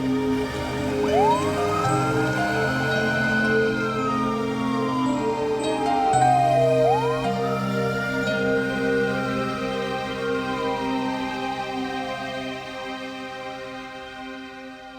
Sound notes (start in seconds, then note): 1.4 siren wailing